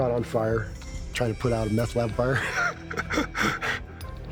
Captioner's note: laughing